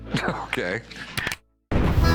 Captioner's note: chuckles; clicks